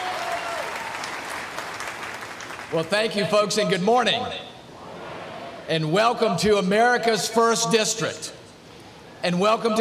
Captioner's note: applause